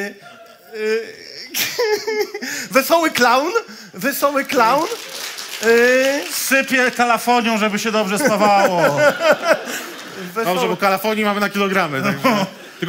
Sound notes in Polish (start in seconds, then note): 4.3 oklaski publiczności